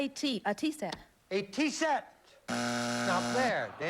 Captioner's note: buzzer